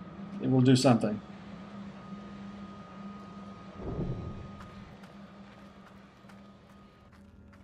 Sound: ominous background hum

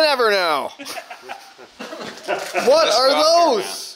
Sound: laughs; everyone laugh

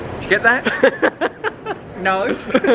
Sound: laughing

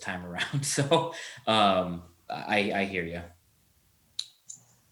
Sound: laughs

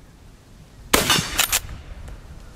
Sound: gun fires

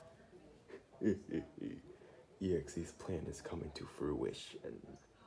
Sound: goofy ahh laugh

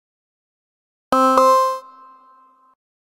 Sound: sound of software tone

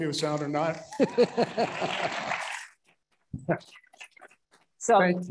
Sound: audience laughing

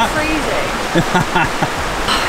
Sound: laughs

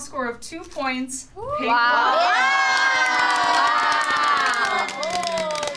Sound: all exclaiming

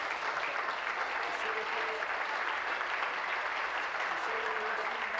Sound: applause

